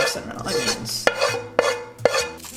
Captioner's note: scraps pan